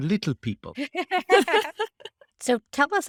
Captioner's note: laughing